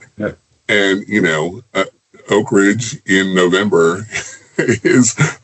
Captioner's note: chuckles